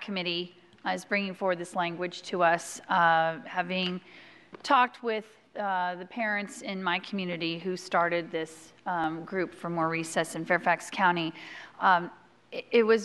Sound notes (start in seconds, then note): none